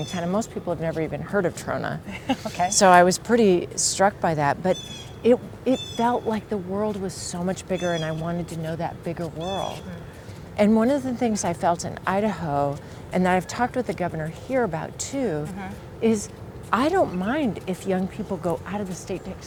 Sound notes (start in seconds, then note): 2.0 chuckles